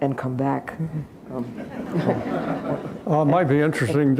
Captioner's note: laughter